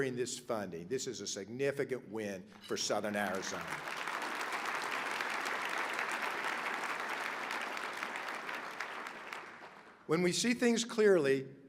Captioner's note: applause